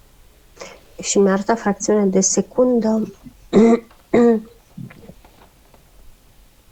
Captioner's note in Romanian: voce dreasă